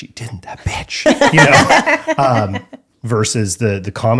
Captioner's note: laughing